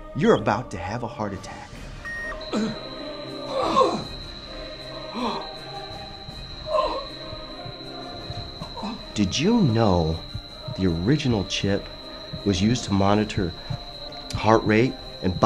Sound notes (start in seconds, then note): 3.3 Dawson moans